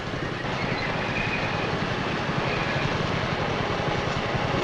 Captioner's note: metal clanking